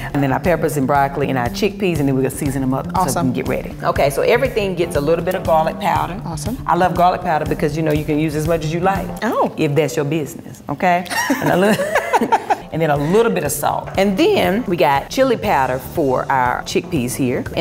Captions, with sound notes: And then our peppers and broccoli, and our chickpeas, and then we gon' season 'em up - Awesome - so then we can get ready. Okay, so everything gets a little bit of garlic powder. - Awesome. - I love garlic powder because, you know, you can use as much as you like. - Oh! - If that's your business. Okay. (laughing) And then a little bit of salt. And then we got chili powder for our chickpeas here.